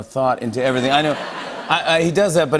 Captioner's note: laughter